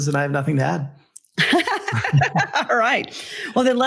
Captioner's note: laughs